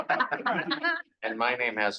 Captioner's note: people laughing